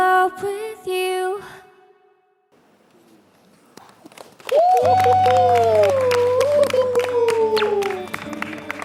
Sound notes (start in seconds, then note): 4.4 هتافات